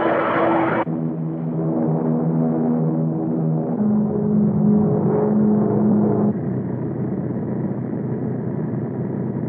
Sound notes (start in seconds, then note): 1.5 engines roaring